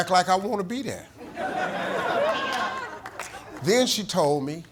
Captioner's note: audience laughing